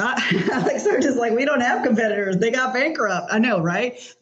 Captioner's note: laughs